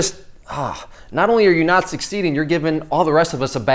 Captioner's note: sighs